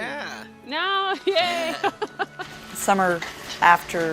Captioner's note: laughs